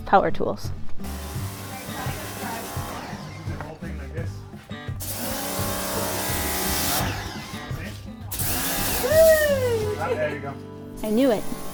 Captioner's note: sound of power tools